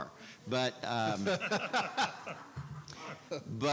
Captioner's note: laughing